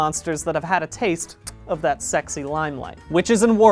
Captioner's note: kiss